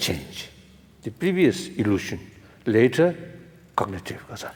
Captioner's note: foreign language